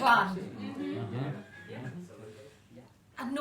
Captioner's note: murmurs of agreement